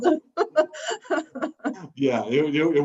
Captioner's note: laughs